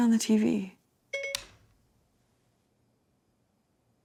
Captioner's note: phone beeping